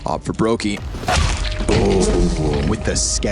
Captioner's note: soldier thudding